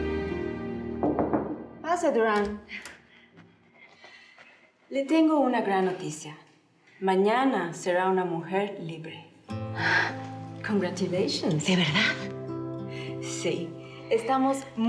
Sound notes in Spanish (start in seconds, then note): 1.0 toques en la puerta